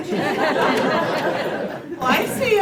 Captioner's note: laughter